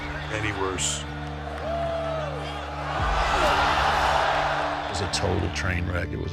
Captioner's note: audience cheering